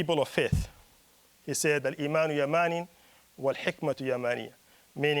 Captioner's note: speaking Arabic